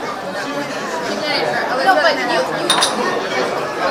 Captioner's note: all chattering